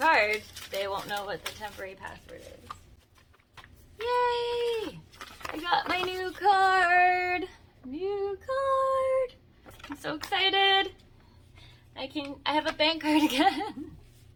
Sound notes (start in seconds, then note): 3.3 sing-songy; 13.1 giggles